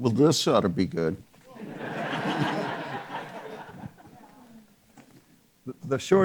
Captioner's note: audience members laughing